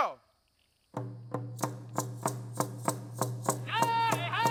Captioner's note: speaks foreign language; drums pounding; rattles rattling; lead dancer chanting